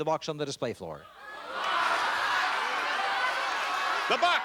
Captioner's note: chatter